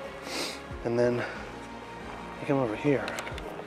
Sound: gentle music; sniffles

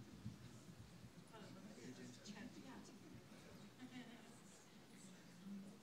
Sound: audience faintly chatting

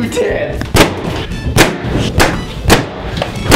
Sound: pop sound

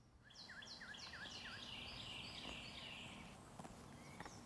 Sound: birds chirping

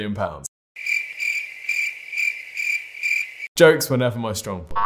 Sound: crickets

